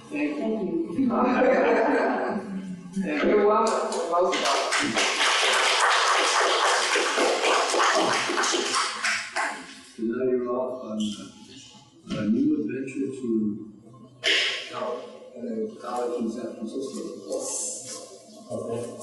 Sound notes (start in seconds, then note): 1.0 laughter; 4.2 applause